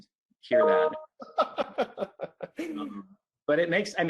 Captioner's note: laughs